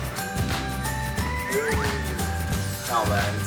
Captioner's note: falling